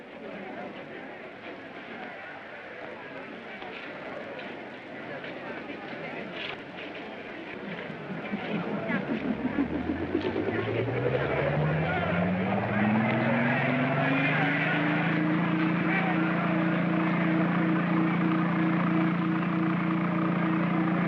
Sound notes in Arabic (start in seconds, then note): 8.0 تشغيل المحرك; 12.9 صخب الحشد; 12.9 هدير الطائرة; 16.7 همهمة الطائرة